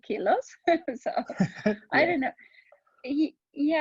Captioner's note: laughing